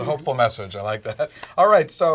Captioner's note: laugh